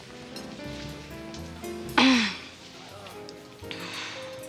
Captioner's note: clears throat